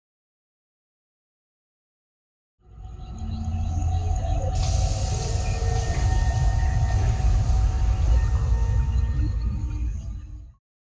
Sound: sound effects

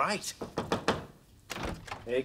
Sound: knocking at the door

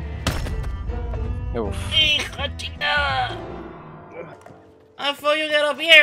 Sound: complains in Spanish

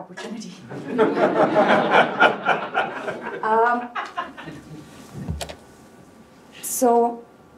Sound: laughter

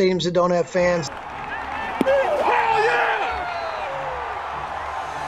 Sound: fans cheering

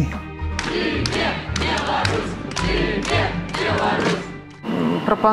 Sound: people chanting

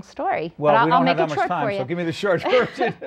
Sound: laughs

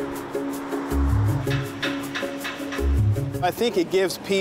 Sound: whirligigs clattering

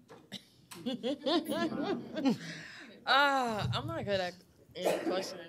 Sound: laughs

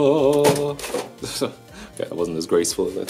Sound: chuckles

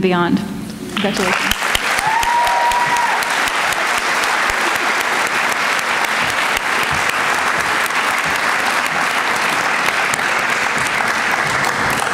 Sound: applause

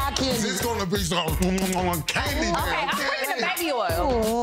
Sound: smacks lips

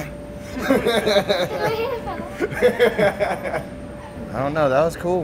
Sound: laughs

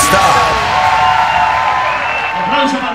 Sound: crowd noise

